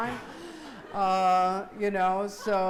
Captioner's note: laughing